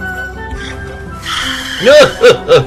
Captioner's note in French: Crissement de pneus